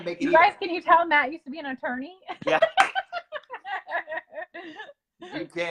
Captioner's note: laughs